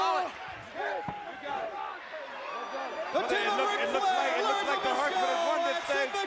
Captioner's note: applause